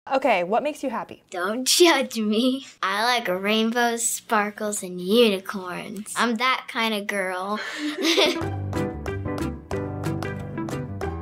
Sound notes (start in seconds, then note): 7.6 laughs; 7.7 upbeat music